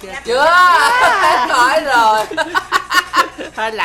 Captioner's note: laugh